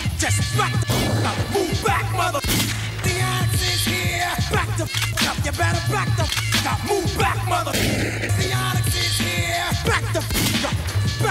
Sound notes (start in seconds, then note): 2.4 gunshot resonating; 4.8 gun cocking; 7.7 gunshot resonating; 10.3 gunshot resonating